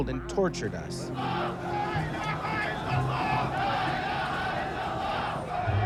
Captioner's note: protesters chanting